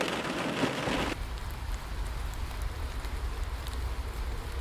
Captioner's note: rain pattering